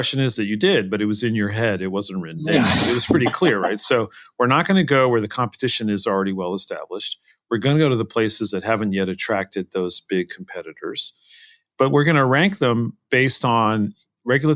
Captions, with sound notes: did, but it was in your head, it wasn't written down. >> Yeah [LAUGH]. >> It was pretty clear, right? So we're not going to go where the competition is already well established, we're going to go to the places that haven't yet attracted those big competitors. But we're going to rank them based